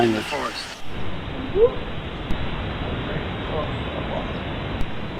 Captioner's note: speaking in a foreign language